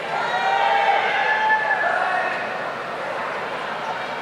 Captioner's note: audience cheering